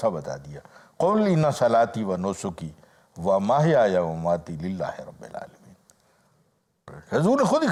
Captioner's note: Arabic